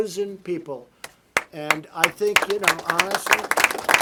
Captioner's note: applause